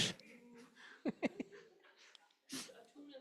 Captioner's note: chuckles